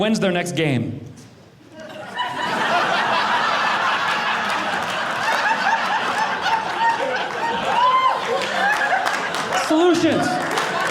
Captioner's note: audience laughing